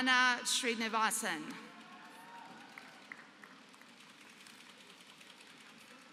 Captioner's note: applause